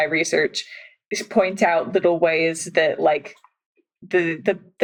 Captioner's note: none